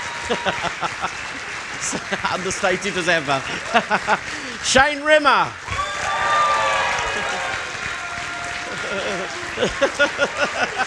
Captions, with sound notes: Understated as ever. Shane Rimmer. (laughter and cheering)